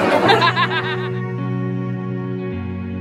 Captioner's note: laugh